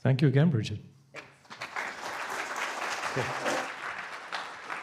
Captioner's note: applause